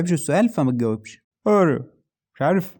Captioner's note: "how are you" but fast